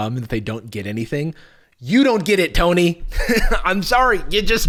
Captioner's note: laughs